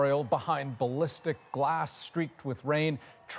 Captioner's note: cheers and Applause